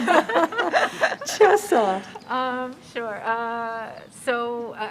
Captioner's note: laughter